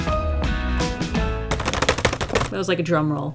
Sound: tapping fingers rapidly

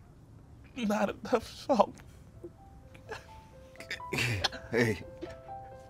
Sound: weeping

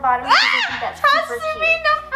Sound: shrieks

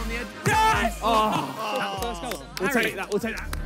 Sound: players groan

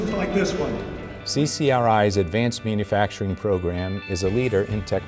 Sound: voiceover

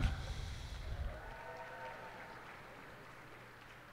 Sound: cheers and applause

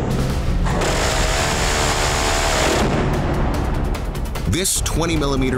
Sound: intense music; gun firing

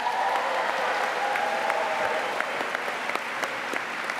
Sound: applause

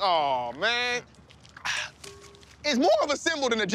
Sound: sighs

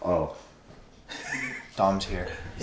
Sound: awkward silence

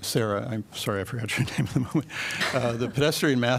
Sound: laughter

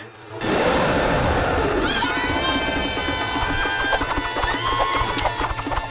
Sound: growling

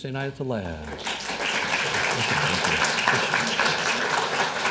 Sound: applause

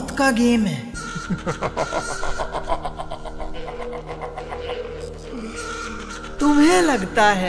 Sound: laughing like a devil

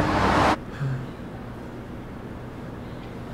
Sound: Paul sighs

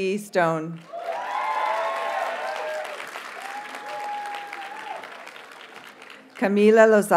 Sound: audience cheers and applauds

